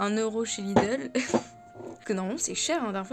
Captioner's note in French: rire